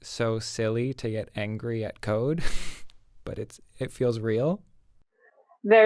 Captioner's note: chuckles